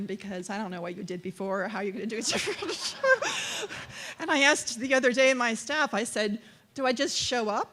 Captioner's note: laughter